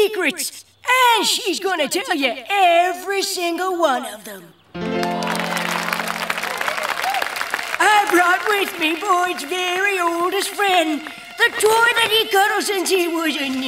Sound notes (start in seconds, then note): 6.3 applauding